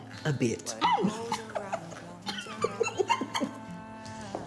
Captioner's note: chuckling